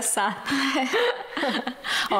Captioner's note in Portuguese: risos